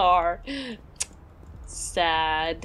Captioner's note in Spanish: chasquea la lengua